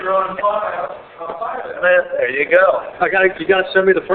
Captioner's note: yells are muffled